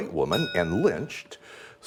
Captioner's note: ding